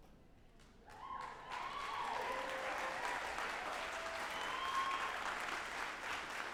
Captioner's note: group applauding and cheering